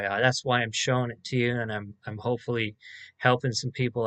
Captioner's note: none